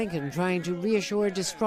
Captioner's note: crowd chanting